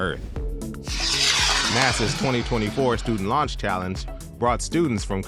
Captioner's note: rocket launches